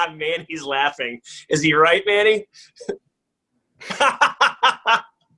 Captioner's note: laughing